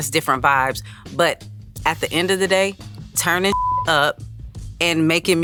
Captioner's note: beep